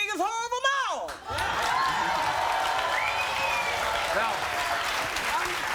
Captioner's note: applauding and cheering